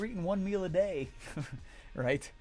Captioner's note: chuckles